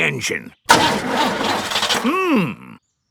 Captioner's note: engine sputtering